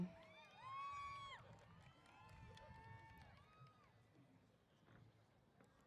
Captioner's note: cheers